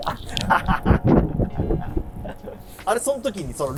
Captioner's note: laughing